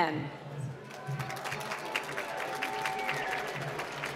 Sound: applause

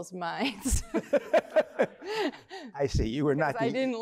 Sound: laughter

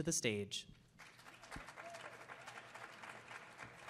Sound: applause

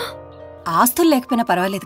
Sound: none

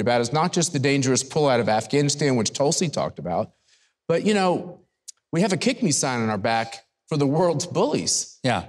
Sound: none

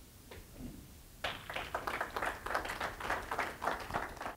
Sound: applause

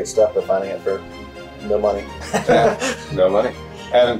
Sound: laughs

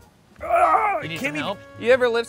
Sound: groaning

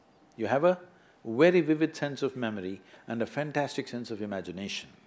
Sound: none

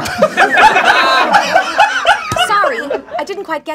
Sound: laughing

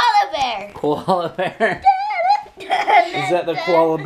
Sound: laughs

